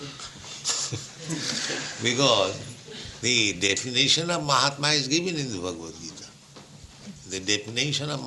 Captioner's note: laughter